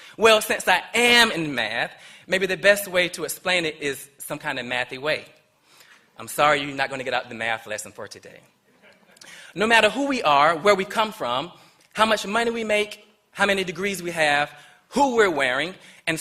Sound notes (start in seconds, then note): 8.7 laughter